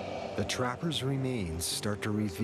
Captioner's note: voiceover